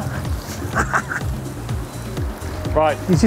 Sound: laughs

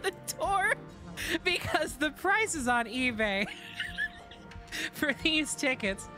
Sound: wheezing

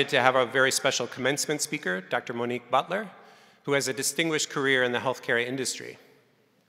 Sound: none

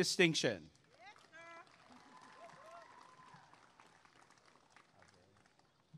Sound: applause and cheering

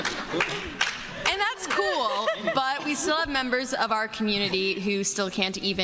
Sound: laughter

